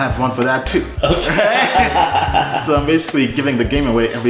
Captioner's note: laughing